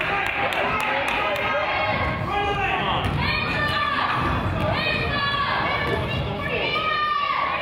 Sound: crowd applauds; coach yells

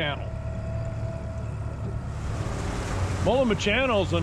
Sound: boat engine running

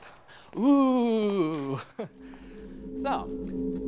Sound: playfully

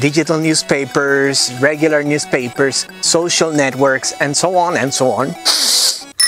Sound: sniff

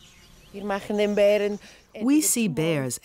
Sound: speaking in foreign language

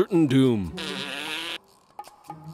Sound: blows raspberry

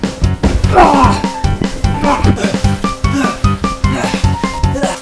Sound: grunts

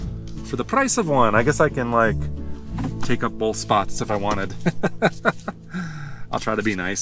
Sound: laughter

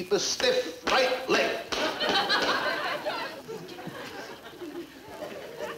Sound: audience laughing

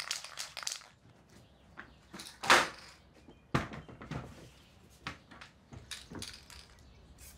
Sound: paint can rattling

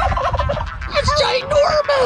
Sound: gobbling

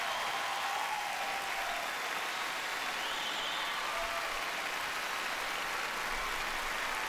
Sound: applause, cheering

